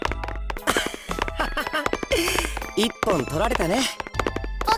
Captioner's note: laugh